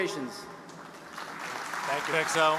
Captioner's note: audience applauding